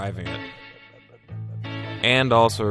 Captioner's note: extremely accurate car noises